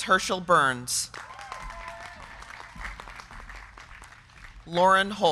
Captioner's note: crowd clapping; crowd cheering